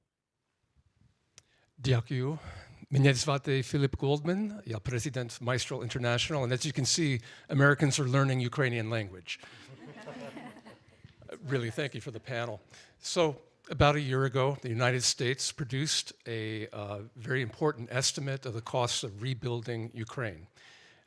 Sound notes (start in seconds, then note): 2.2 speaking Ukrainian; 9.8 panel chuckling